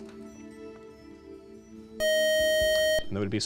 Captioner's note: time out buzzer